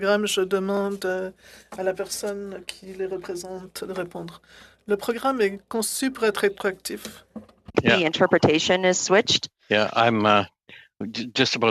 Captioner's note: speaking French